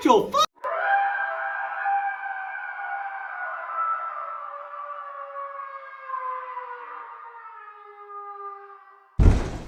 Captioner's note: scream